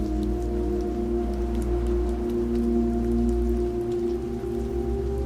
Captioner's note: leaves rustling